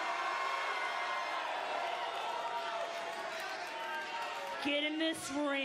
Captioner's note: crowd cheering